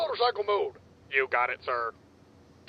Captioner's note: monotone